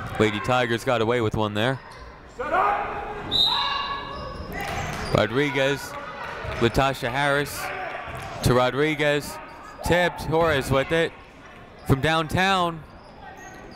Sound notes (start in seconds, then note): 3.3 whistle tweeting